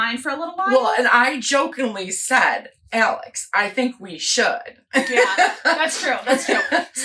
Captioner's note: laughs